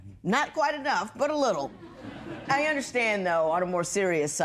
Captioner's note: laughter